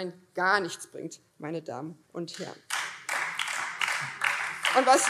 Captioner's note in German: Beifall BÜNDNIS 90/DIE GRÜNEN